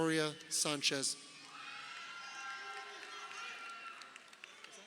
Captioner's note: crowd cheering